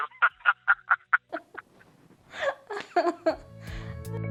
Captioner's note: laughs